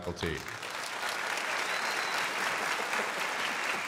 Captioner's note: crowd applauding